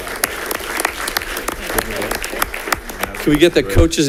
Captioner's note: audience applauding